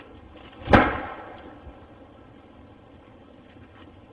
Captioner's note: banging